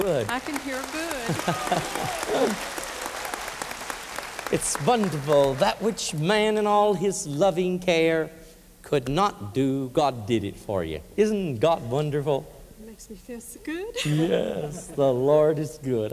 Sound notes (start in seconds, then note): 0.0 applause; 1.2 laughter; 13.9 giggling